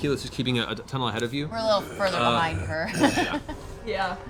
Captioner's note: laughs